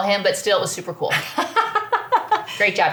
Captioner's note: laughs